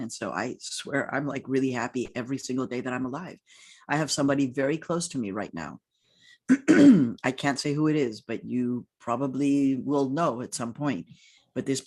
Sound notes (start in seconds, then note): 6.5 clears throat